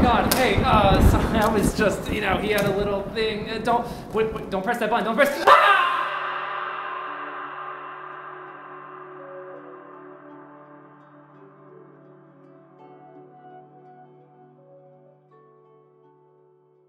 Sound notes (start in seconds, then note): 5.4 hellish scream